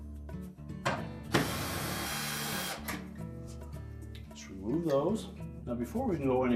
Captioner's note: drilling sound